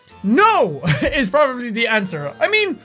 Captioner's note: laughs